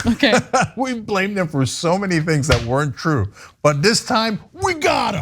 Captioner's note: laugh